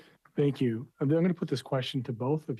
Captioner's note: speaking French